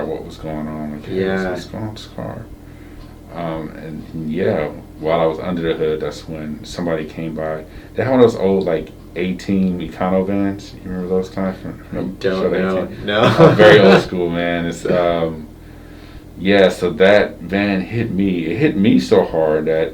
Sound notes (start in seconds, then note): 12.7 chuckles